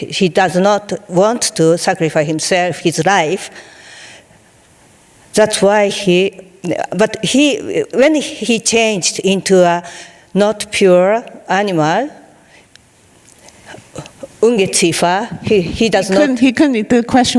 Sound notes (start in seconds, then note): 14.4 speaking in foreign language